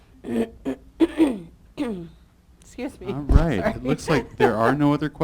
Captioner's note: clears throat